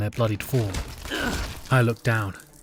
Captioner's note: SFX blood shlorp